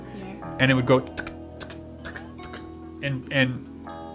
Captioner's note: makes clicking sounds